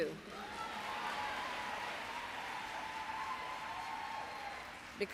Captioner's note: applause